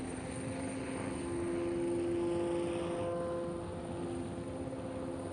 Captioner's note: boat horn blaring